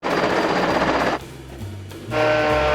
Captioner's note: power saw grinding; jazzy music; sander buzzing